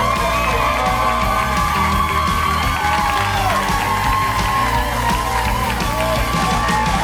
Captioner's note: audience cheering; bright music